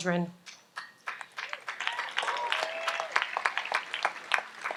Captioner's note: audience applauds